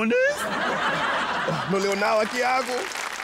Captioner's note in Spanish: Risas